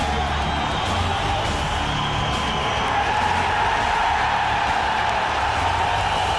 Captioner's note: audience roaring